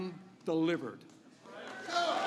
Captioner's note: applause